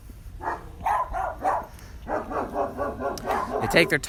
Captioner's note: dogs barking